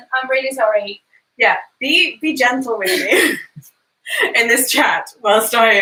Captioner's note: laughs